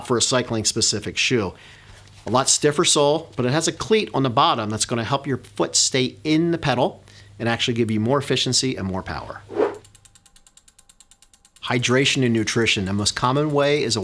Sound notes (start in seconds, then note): 9.4 air whooshing; 9.8 gears clicking